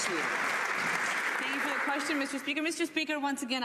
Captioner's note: some Applause